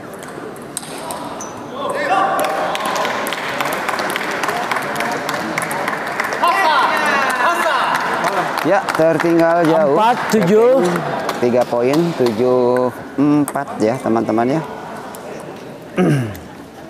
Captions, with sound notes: [Applause] yes Far behind part 73 points 74 yes friends yes